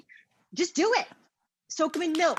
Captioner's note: Rachael claps